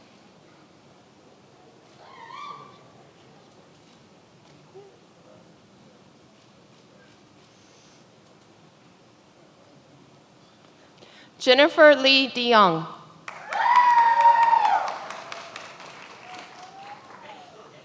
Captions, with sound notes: Jennifer Lee DeYoung. (many applauding)